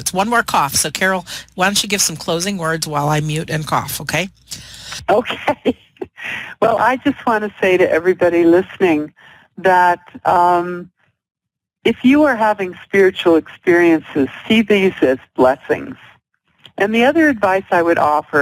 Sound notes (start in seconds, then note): 5.1 laughter